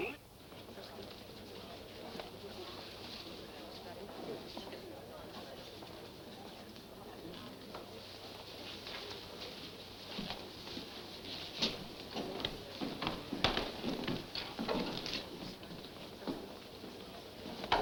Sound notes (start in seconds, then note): 0.0 crowd chattering